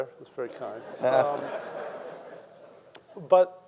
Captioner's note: audience chuckling